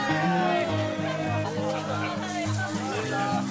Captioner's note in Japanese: 歓声